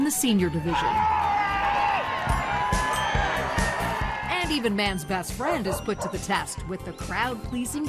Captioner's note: applause